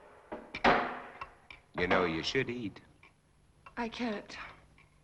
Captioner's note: none